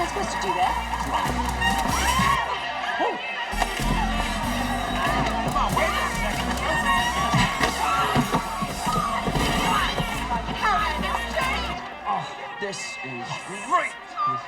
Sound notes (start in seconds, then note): 2.2 Shelley screams; 7.5 punch slamming